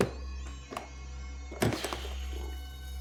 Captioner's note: thudding